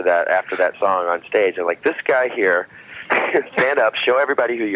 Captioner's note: laughs